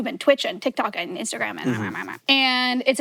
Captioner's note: babbles